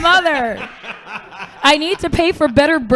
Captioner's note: laughing